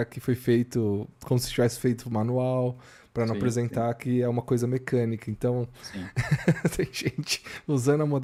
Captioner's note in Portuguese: risadas